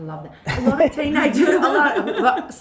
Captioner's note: laughs